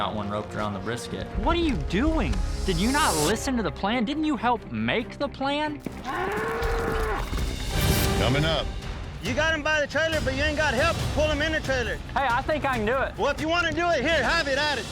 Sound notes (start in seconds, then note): 6.0 bull mooing wildly